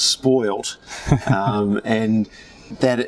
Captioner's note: chuckles